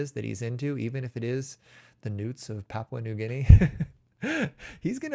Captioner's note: chuckles